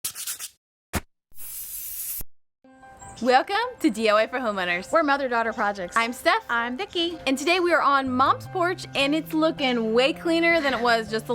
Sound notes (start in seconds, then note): 0.0 scratching, tapping, spraying; 2.0 cheery music